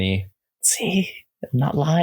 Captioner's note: whispers